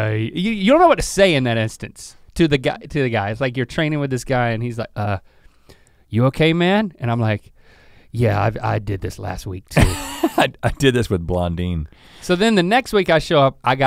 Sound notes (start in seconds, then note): 9.8 chuckles